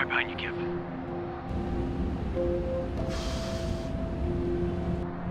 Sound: big exhale; motorcycle starting

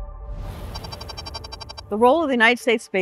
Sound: air whooshes; air beeping

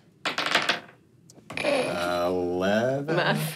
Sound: dice rolling

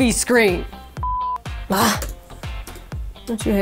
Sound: beep

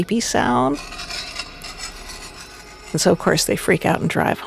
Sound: metal scraping metal

